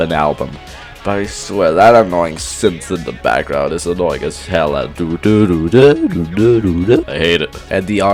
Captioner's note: imitates broken synth